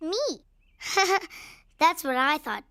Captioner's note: chuckling